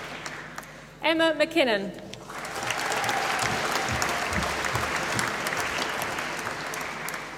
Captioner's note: applause